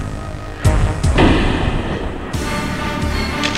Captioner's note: door opening